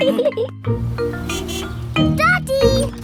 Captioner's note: horn honks